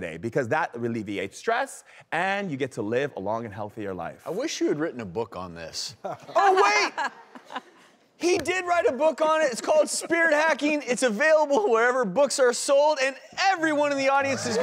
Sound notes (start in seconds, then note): 6.1 audience laughing